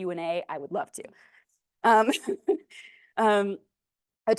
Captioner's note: laughs